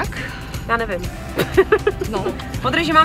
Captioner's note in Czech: smích